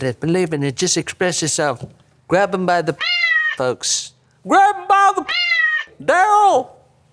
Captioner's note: meow